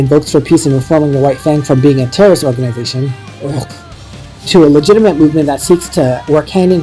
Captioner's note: ugh